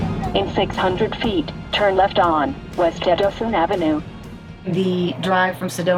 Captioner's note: murmuring